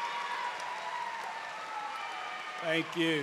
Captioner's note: cheers and applause